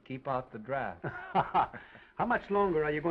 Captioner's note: Oliver laughs